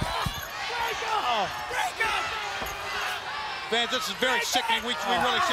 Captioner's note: crowd chatter